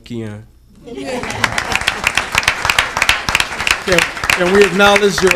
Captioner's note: audience applauding